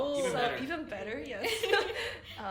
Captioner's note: laughs